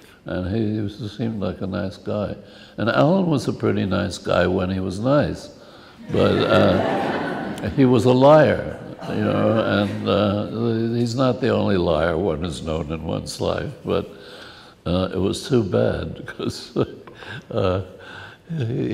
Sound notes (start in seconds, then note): 6.0 laughs